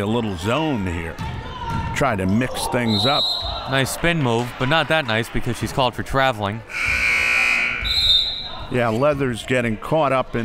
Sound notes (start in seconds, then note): 2.9 whistle; 6.7 buzzer; 7.6 whistle